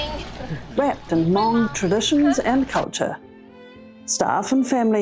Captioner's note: fountain splashing